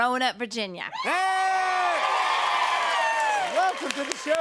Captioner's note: cheers and applause